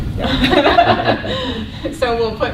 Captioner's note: laughter